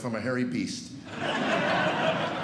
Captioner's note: laughter